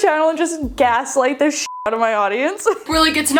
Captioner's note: beep